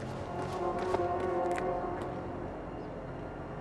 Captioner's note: footsteps running away